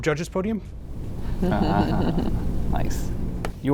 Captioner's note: judges chuckle